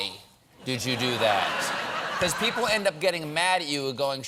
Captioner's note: laughter